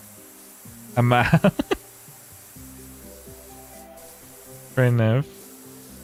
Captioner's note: laughter